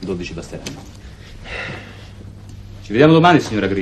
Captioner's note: sighs